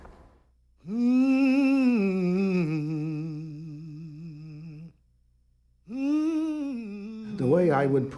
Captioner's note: woman Humming